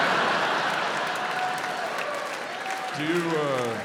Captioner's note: audience laughs